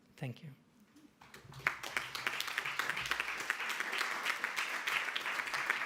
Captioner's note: audience applauding